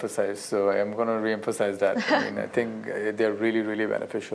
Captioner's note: laughter